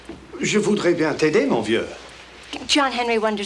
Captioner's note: John speaks French